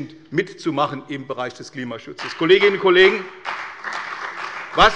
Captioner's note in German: Beifall bei der CDU und dem BÜNDNIS 90/DIE GRÜNEN